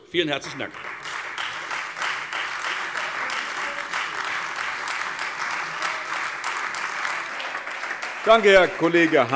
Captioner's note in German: Beifall Freie Demokraten, AfD und vereinzelt SPD